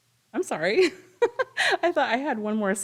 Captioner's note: laughs